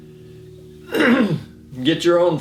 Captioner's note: clearing throat